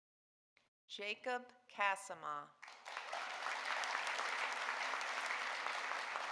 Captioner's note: audience applauding